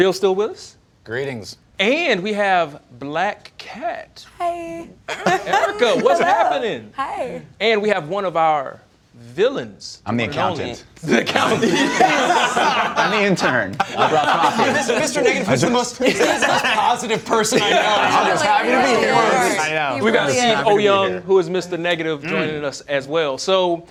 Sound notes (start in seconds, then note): 14.4 laughter